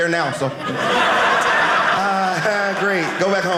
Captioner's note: audience laughing